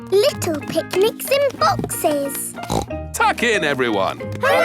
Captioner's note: snorts